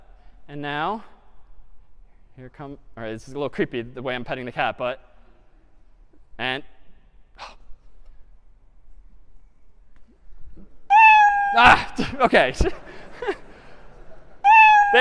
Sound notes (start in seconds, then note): 7.4 sigh; 10.9 meowing; 12.4 laughter